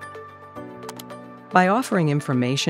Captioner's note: mouse click